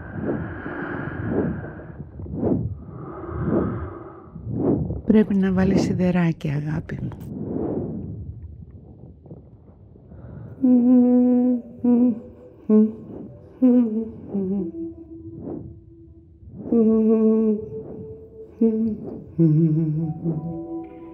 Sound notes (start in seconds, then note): 0.0 heavy slow breathing; 4.9 foreign language; 10.6 female humming; 20.0 electronic warbling; 20.0 solemn orchestral music